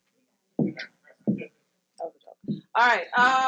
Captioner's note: mumbles; speaks faintly